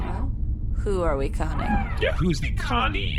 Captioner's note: conspiratorially